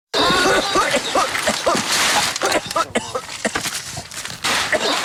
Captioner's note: coughing